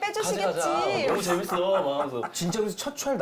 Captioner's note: laughs